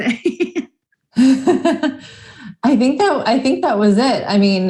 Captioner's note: laughs